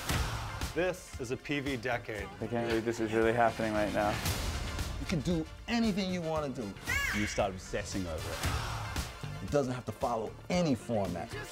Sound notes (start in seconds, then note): 6.8 exclaims